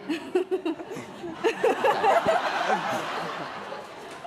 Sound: laughing

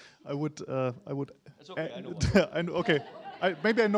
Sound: laughter

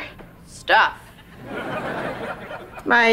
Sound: laughing

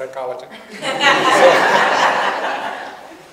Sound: audience laughs

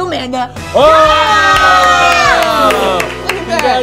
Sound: energetic music; group exclaiming; light flourish

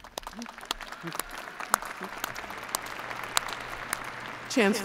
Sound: applause

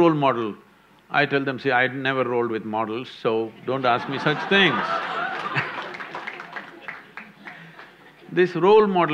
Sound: laughter/Applause

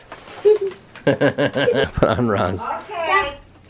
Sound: laughs

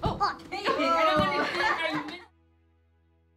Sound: everyone laughs

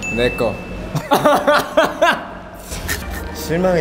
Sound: hahahaha

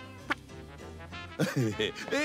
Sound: chuckles

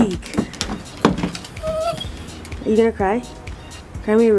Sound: dog whines

